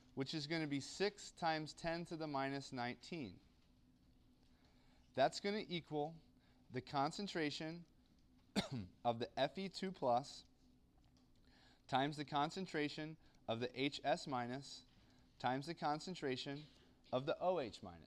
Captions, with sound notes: which is going to be 6 times 10 to the minus 19. That's going to equal the concentration [COUGH] of the F E 2 plus, times the concentration of the H S minus, times the concentration of the O H minus.